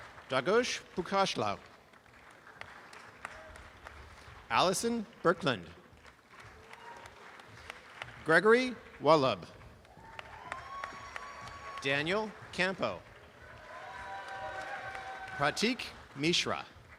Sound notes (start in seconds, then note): 0.0 applause; 1.7 applause; 5.8 applause; 9.6 applause and cheering; 13.1 applause and cheering; 16.7 applause and cheering